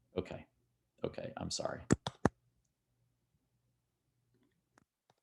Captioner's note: keyboard clicking